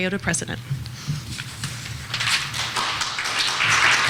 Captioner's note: clapping